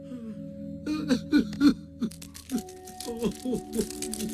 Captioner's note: Bing Bong crying